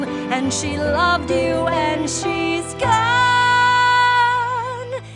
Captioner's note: none